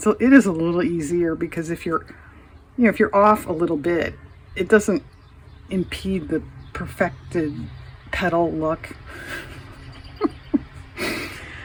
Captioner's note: laughs